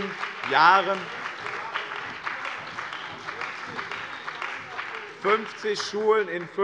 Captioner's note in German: Beifall bei dem BÜNDNIS 90/DIE GRÜNEN und der CDU